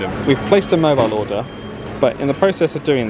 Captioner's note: none